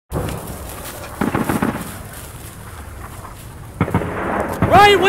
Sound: distant Gunshots, Explosions

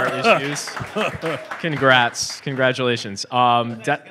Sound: applause

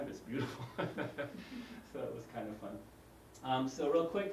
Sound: laugh

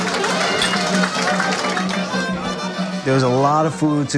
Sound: people clapping; cups clank

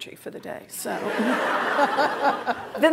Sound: laughter

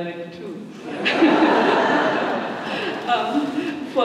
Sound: laughter

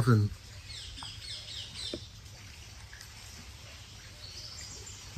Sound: birds signing

